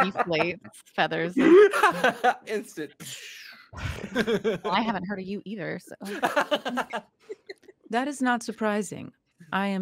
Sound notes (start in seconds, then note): 1.4 laughing; 3.2 imitating sound of deflation; 6.0 laughing